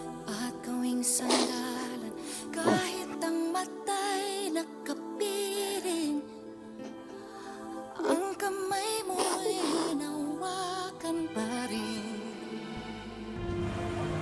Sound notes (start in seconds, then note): 1.2 sniffles